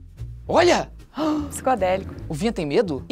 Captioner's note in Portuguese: faz som de surpresa